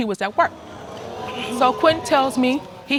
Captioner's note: audience exclaiming